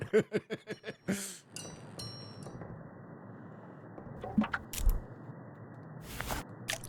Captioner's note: ding